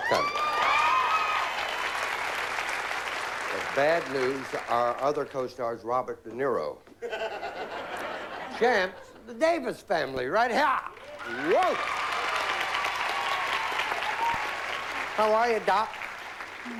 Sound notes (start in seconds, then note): 0.0 cheering; 7.0 laughter; 10.9 cheering